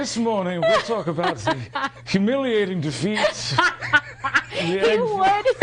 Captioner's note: laughing